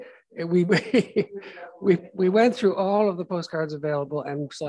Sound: laughs

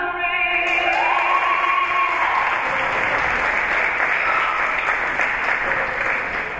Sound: spectators and teams cheering and applauding

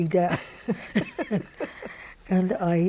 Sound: both laugh

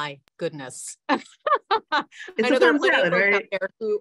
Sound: laughs

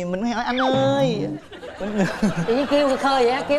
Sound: laughs

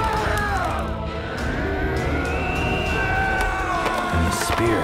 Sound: yelling and Cheering; warriors Yelling

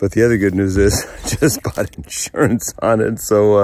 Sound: chuckles

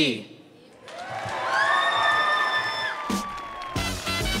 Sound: audience cheering; bright music

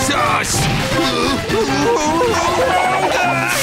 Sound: groaning; screaming

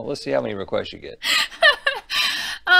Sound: laughter

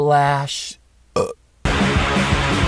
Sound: burp

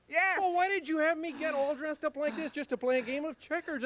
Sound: Bert sighs

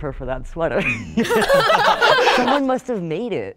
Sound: everybody laughs

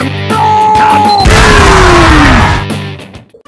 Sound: dying scream

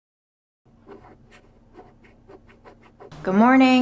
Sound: images shuffling

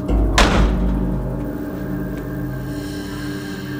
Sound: door slams

